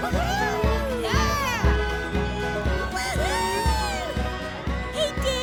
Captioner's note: all cheering